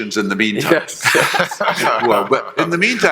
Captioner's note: panelists laughing